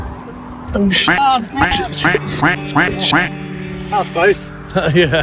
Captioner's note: quack